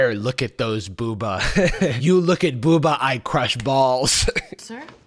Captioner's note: laughs; chuckles